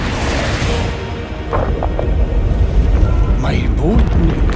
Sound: rumble echoes

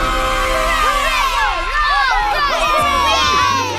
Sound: cheering

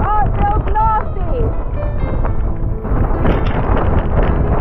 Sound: wind gusts

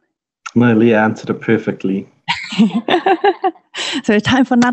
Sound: chuckling

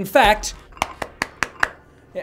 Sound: slaps phone

